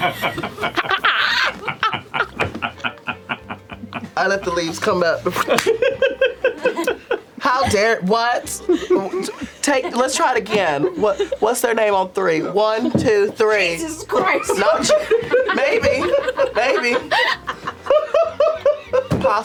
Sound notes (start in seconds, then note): 0.0 laughter; 5.2 laughs; 5.4 whooshes; 17.9 laughter